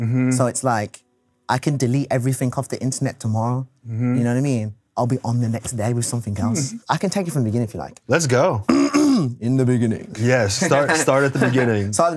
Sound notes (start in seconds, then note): 8.6 clears throat